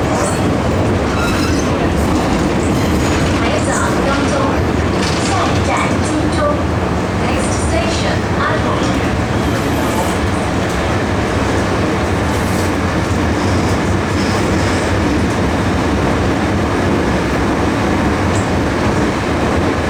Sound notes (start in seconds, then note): 3.0 Cantonese